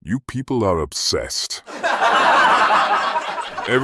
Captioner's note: audience Laughing